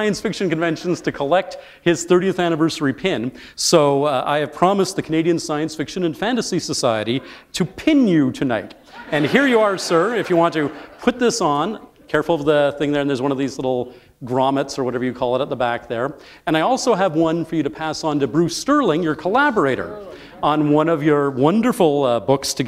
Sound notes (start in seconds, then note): 8.8 laughter